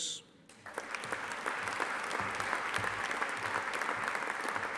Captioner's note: audience applauding